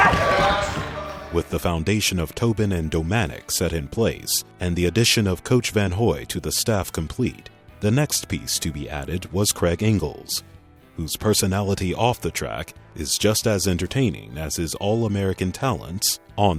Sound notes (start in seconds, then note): 1.4 voiceover